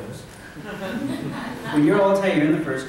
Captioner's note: laughter